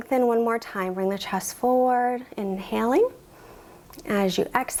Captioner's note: inhales